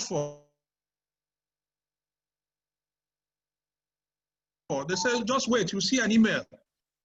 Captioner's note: unstable audio